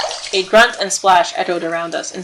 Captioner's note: grunt and splash